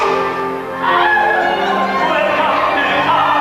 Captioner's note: girl cries of pain, dramatic